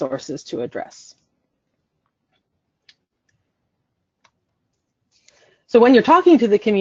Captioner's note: silence